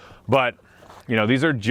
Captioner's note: footsteps shuffling